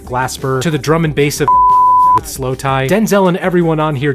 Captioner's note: beep